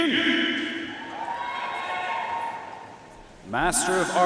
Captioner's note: audience cheering and applauding